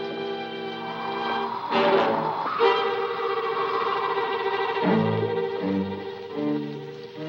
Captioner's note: dramatic music; wind whistling